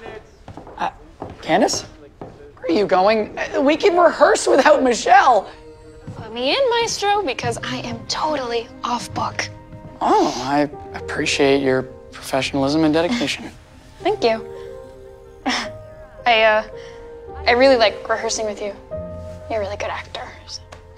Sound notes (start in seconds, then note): 14.7 laughs